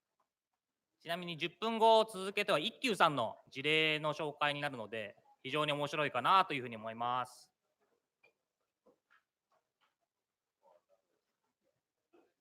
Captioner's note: speaking japanese